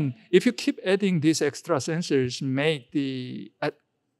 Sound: none

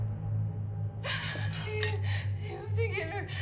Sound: sobbing

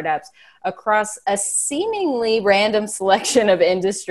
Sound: chuckling

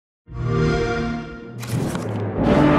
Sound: xbox whoosh

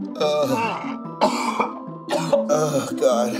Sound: coughs

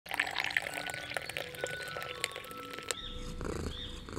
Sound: tea pouring; cats purring & birds chirping

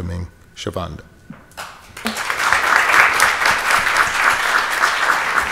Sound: audience applauds

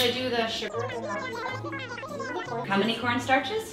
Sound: high pitch gibbers

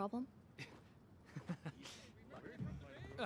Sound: chuckles

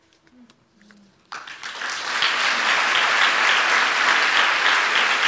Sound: audience applauds

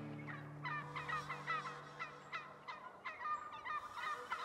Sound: turkey gobbles

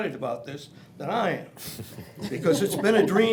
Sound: others chuckle

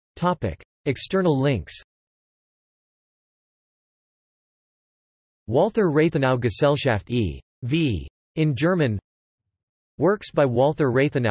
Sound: in German

